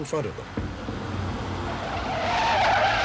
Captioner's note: tires screeching